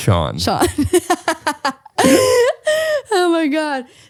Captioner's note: laughs